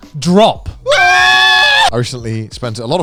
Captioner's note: men screaming